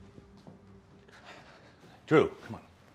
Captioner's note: Drew sighs